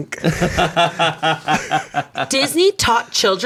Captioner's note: laughs